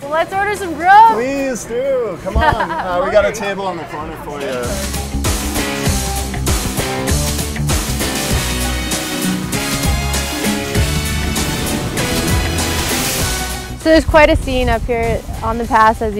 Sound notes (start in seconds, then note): 2.2 laughing